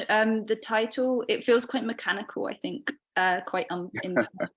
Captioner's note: both chuckling